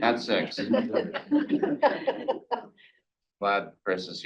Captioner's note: board members laughing